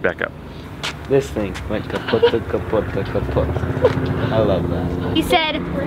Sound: laughter

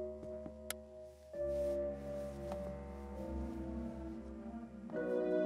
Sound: light switch clicks

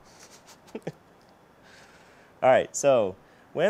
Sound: laughing

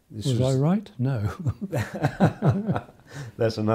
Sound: laughs

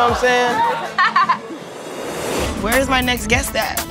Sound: laughing

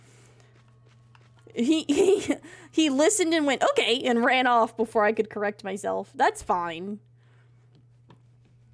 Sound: laughs

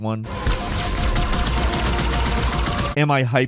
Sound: lasers blasting

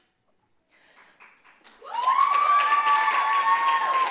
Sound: clapping; cheers

